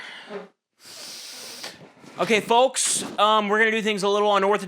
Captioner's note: Desmond groans, stool scrapes; Nick breathes in deeply through his nose